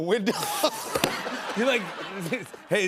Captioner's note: laughter